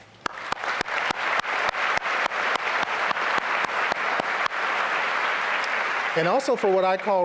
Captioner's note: applause